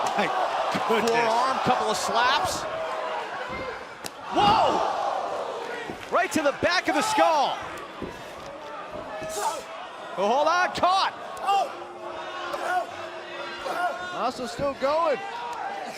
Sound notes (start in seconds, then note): 7.9 crowd chatter